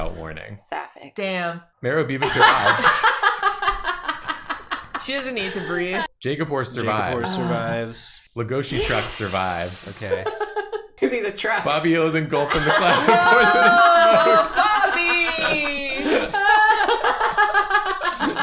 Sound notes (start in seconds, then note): 8.9 quietly; 16.3 laughter